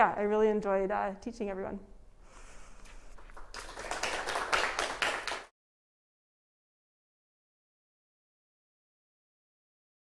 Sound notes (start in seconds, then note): 3.1 applause